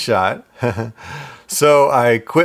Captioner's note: awkward laughter